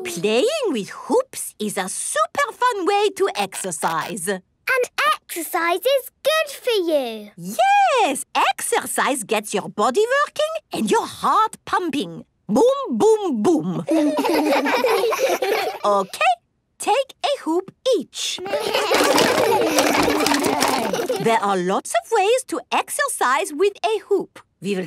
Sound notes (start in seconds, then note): 13.8 laughs; 18.4 all laugh